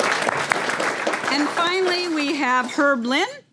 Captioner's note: applause